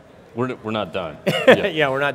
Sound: laughs

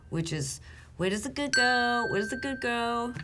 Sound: bell dinging

